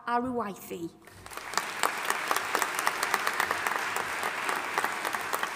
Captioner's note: audience applauding